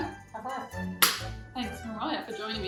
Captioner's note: hands slap